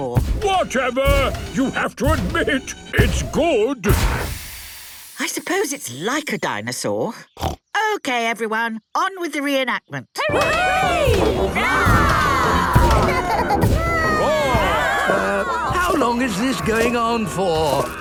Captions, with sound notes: - Whatever! You have to admit, it's good! - I suppose it's like a dinosaur. (snorts) Okay, everyone! On with the reenactment! (cheering) (roarings, giggling) - Um, how long is this going on for?